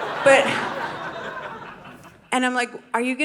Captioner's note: audience laughing